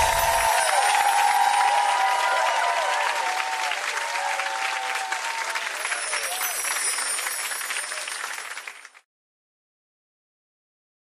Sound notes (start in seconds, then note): 0.1 applauding; 5.7 chiming